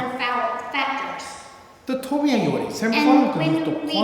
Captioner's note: speaking tibetan